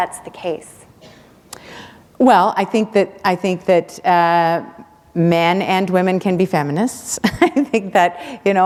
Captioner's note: chuckle